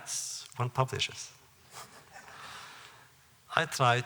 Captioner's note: laughter